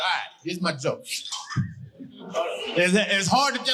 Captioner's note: stifling a laugh